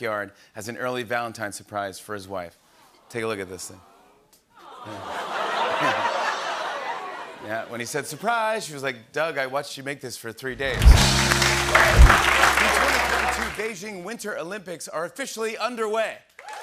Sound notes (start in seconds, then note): 2.6 audience "Awws"; 4.6 laughter